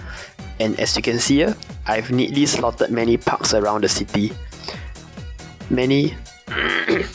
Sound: ahem

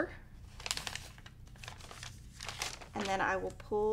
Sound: paper rattling

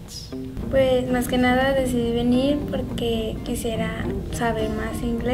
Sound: speaking in foreign language

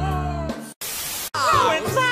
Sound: TV Static

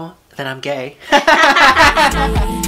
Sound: laugh; outro music

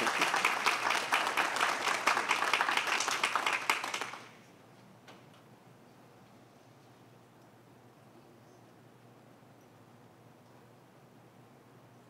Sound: applause

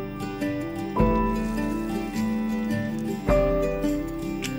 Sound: gentle uplifting music; water pattering

